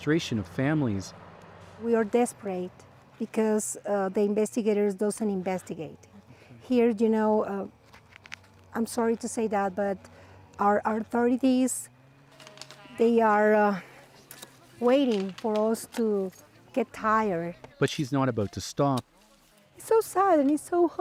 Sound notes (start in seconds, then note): none